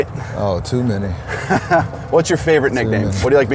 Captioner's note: laughs